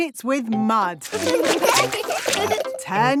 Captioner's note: laughing